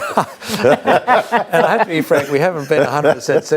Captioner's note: both laughs